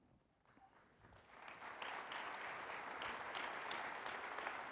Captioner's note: audience applauds